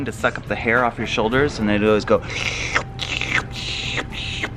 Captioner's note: sucking